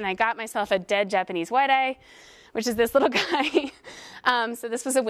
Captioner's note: laugh